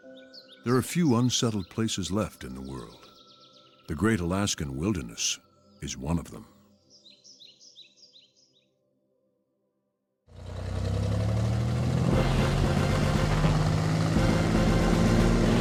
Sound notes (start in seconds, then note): 7.1 birds chirping; 10.4 seaplane droning; 10.5 adventurous music